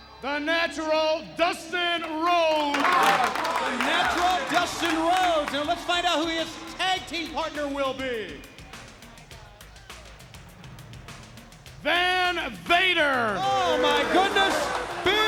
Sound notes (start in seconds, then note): 2.0 wrestlers applaud; 9.5 upbeat music continues